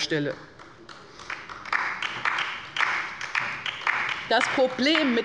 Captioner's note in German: Beifall bei der LINKEN